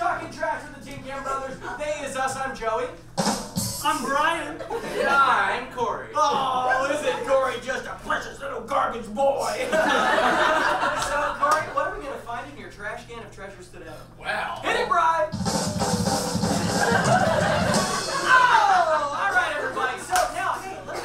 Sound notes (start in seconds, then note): 3.7 plays a rimshot; 9.6 audience laughs; 15.2 plays a drum roll; 16.4 audience laughs